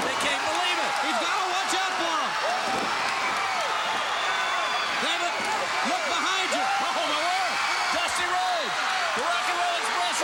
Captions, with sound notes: They can't believe it. He's gotta watch out for 'em. (blows thudding) (body thudding) (crowd cheering) Damn it. Look behind you. Oh! Dusty Rhoades. The Rock 'n' Roll Express,